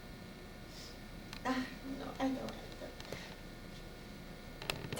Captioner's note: cries